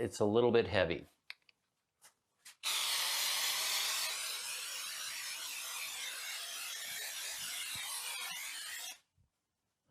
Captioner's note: spraying